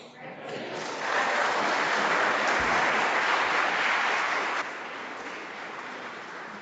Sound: audience and board members applauding

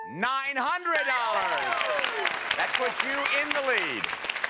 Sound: applause

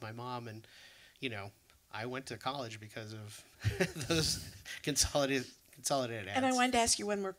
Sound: laughs

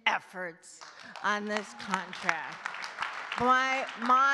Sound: audience clapping

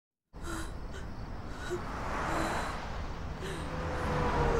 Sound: panting

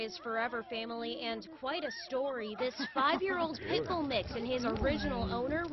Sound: laughter

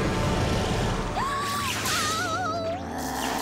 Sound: gasping

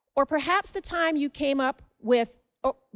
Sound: none

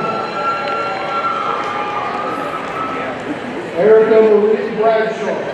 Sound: audience cheering

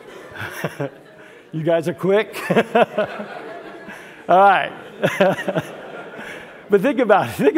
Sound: laugh

